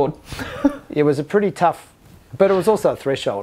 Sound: chuckling

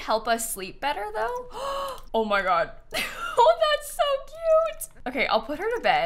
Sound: gasps

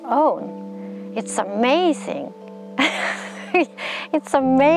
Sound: laughs

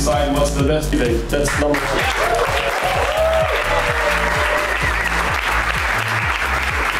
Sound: cheering

